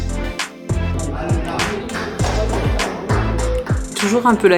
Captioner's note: they all clap xD